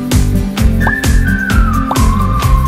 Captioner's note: pop; pop